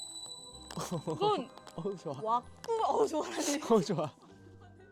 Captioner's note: wax Cracking